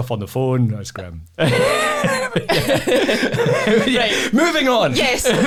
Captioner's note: laughs